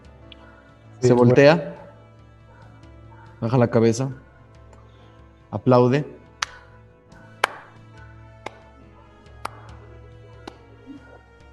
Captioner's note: five claps